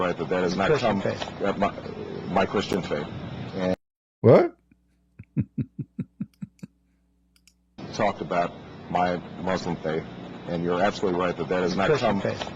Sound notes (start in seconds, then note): 5.2 Ketawa